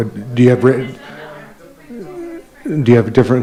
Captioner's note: group chattering